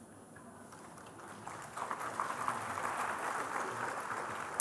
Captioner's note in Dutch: applaus